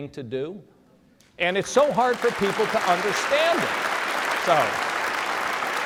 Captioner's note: applause